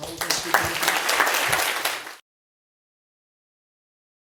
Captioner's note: applause